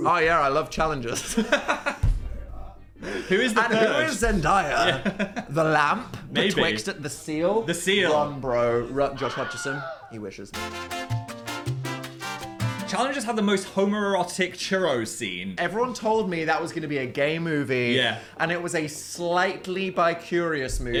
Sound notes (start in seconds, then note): 1.2 Phil laughing; 10.5 upbeat music